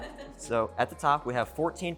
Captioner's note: all laugh